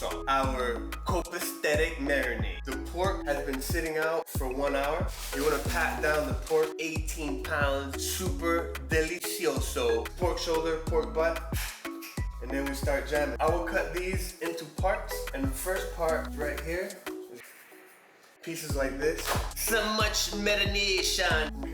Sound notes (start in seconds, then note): 11.5 clap and Snap; 17.2 sharp knife cutting meat